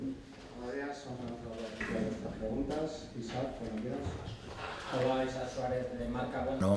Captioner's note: Spanish